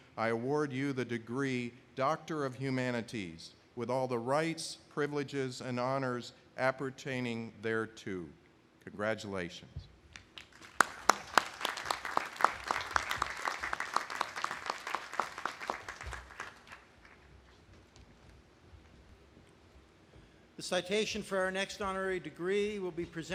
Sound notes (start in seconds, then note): 10.3 audience applauding